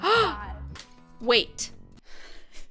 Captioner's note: gasps